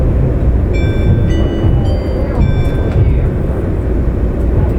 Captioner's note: car chimes